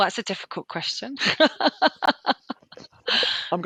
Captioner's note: laughs